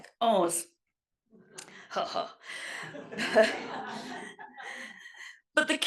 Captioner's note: laugh